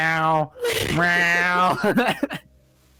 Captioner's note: giggles